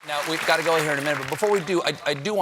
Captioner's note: applause